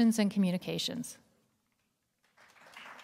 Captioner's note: applause